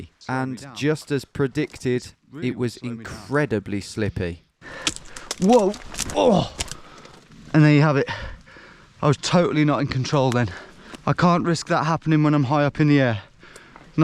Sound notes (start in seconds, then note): 4.7 twigs crumpling; 6.2 grunting